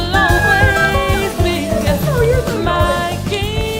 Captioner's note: woman laughing